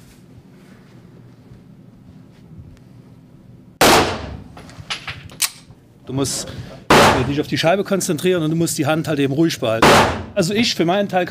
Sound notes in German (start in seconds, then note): 3.8 Schuss